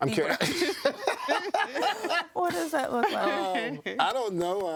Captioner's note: laughing